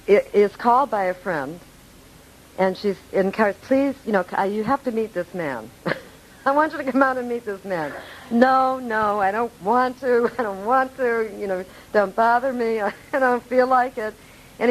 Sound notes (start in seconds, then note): 7.7 laughing